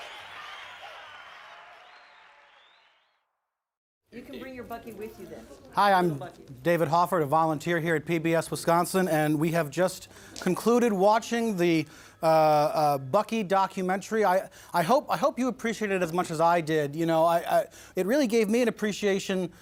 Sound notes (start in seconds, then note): 3.4 chanting